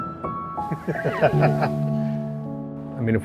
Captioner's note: laughs